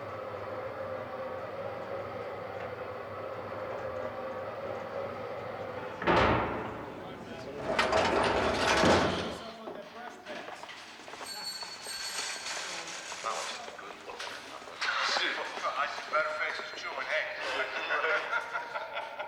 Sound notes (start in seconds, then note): 11.3 bell ringing; 15.4 laughing